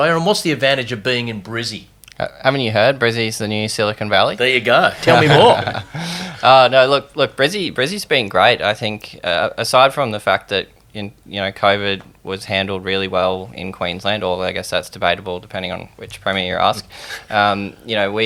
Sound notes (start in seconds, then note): 4.9 laughing